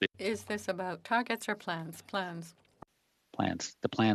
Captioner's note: speaking FRENCH